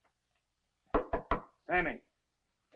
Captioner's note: Carl knocking